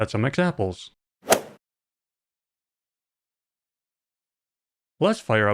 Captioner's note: golf ball hit sound